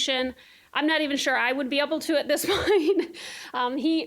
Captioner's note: laughing